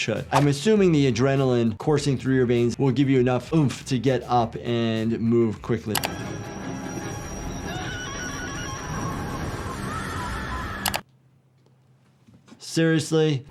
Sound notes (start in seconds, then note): 6.0 ominous string music; 7.6 victim screaming